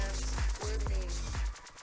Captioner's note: none